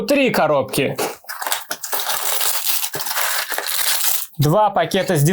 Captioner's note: carton rustling